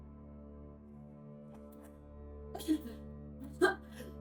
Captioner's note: sobbing